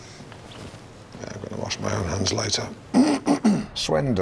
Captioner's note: clears throat